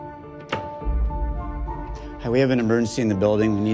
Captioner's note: door opening; knocks